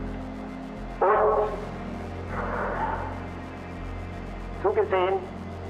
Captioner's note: Himmler continues speaking German